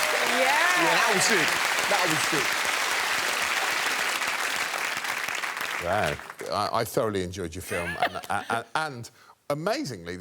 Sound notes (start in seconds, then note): 0.0 applause